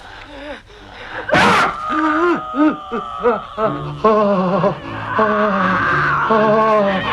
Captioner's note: Torente groaning; Hundra growling